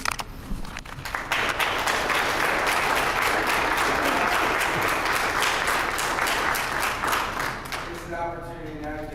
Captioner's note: applause